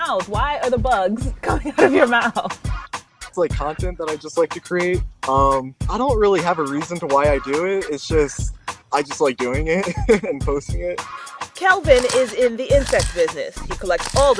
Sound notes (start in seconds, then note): 8.9 laughs; 11.9 camera clicks; 13.7 camera clicks